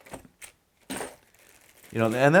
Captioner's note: parts clang